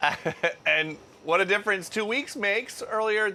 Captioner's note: laughter